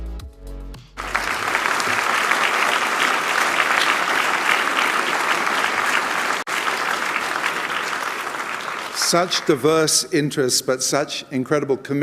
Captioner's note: applause